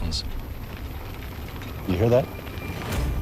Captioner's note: helicopter blade whirring